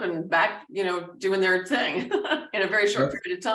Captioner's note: laughing